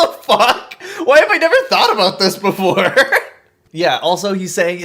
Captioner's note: laughs